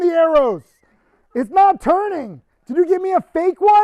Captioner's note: producer wheezing